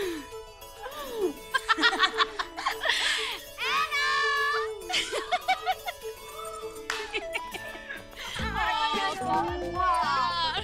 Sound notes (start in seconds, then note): 0.8 Vandy and Cherry laughing; 4.8 All laughing; 6.8 Claps